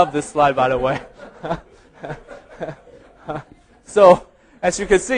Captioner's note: audience laughing